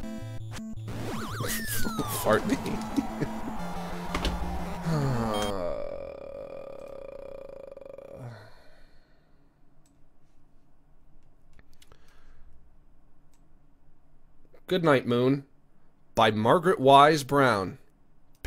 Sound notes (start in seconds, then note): 4.7 groans at length